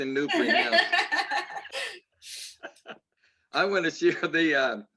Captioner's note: laughter